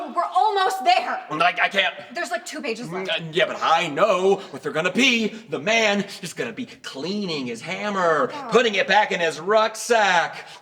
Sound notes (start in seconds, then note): none